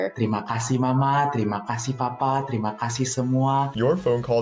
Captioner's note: non-english speech